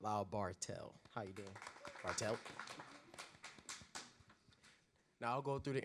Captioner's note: audience applause